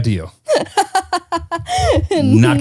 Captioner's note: laughing